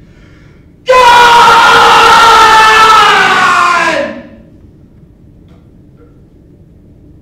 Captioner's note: yells